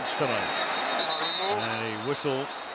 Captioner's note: whistle